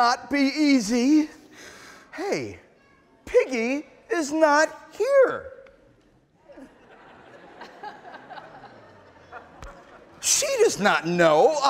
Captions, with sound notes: Hey, Piggy is not here. (audience laughing) She does not know I have ice cream.